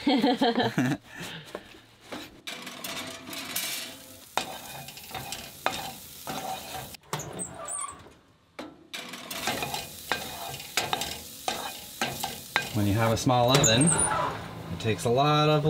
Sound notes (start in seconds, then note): 0.0 both laughing; 4.0 oil sizzling; 7.2 oven creaking